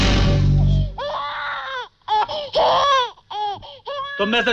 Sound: baby crying

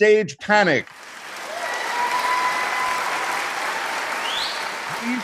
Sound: audience applauding

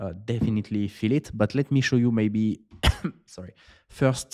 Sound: coughs

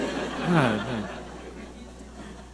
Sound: audience laughing

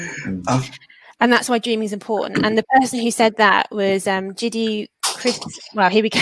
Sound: erm

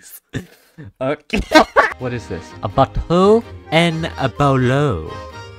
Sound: laughs

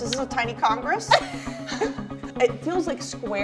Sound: laughs

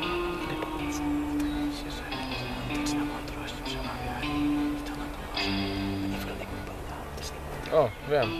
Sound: whispering

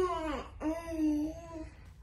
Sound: baby coos

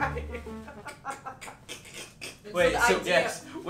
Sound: laughing

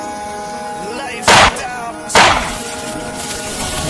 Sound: gun shots

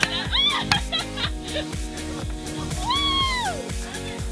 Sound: laughing and giggling

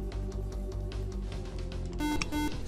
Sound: buzzer

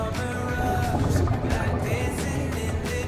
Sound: water bubbling

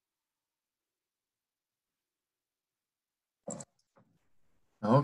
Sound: silence during the 5-minute break

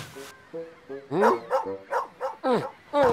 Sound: barking

